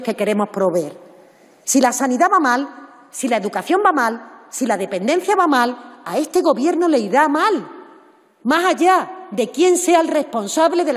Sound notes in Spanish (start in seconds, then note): none